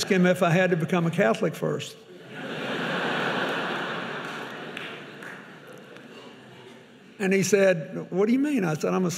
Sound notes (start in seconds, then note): 2.2 audience laughing; 5.2 audience clapping